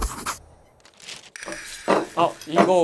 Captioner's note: clatter